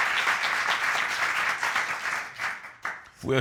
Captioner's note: audience applauding